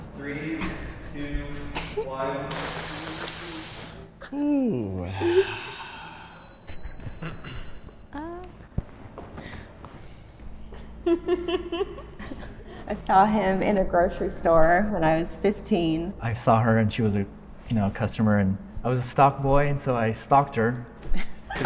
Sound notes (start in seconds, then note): 3.0 heavy breathing; 11.0 giggles; 21.4 laughing